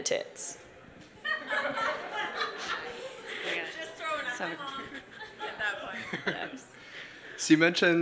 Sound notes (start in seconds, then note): 1.2 laughing